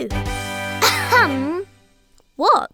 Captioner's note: triumphant music; clearing throat